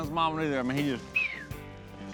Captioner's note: whistles